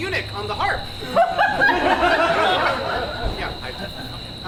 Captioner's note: audience laughs